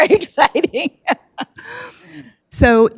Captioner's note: laughs